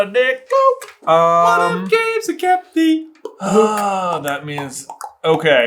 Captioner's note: higher pitched; tongue pop